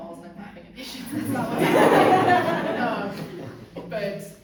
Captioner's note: audience laughs